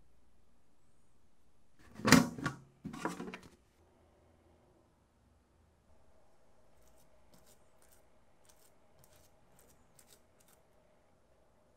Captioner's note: folding